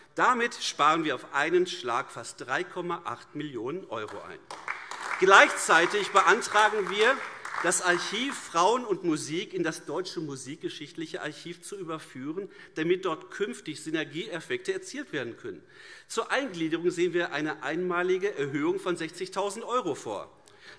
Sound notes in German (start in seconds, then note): 4.0 Beifall AfD